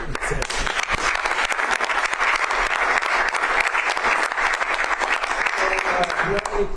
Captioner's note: applause